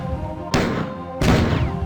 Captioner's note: BOOSHx4; pow; BOOSHx5